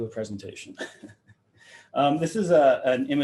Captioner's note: laughing